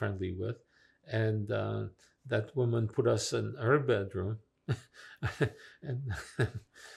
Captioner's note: laughing